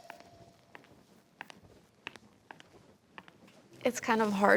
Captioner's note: footsteps tapping